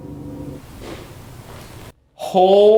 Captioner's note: object taps